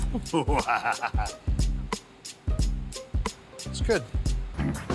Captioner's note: Buddy laughs; light upbeat music